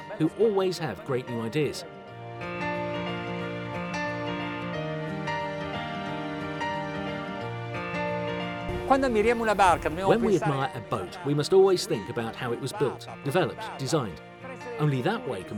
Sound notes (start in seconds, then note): 2.5 playful music; 9.0 speaks Italian